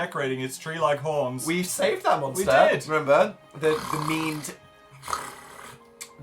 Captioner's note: imitates chewing mandibles